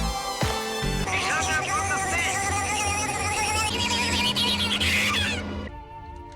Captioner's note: sickening vibrations